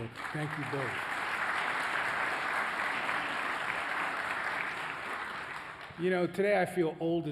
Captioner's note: applause